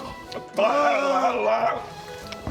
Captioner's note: hrrghghghhh